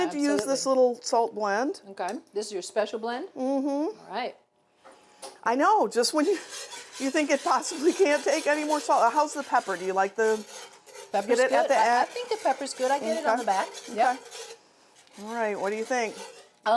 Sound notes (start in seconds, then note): none